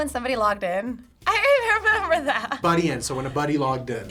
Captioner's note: laughs